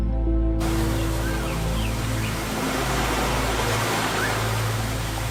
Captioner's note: waterfall rumbling